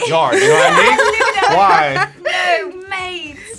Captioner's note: React laughs